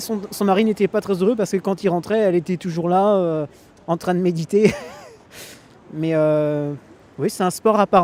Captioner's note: laughs